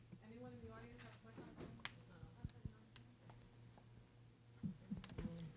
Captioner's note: woman speaking softly